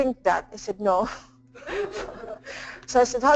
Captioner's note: laughing in the background